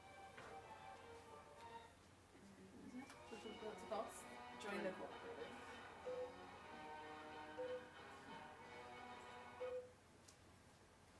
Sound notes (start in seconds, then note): 6.1 electronic beep